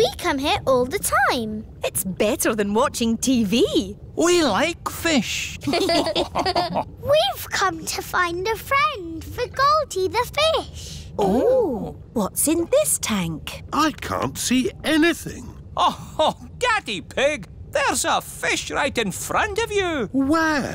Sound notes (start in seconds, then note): 5.6 all laughing